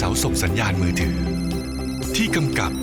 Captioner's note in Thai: เสียงโทรศัพท์